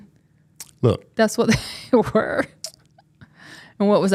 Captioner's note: chuckles